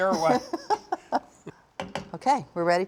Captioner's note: laughs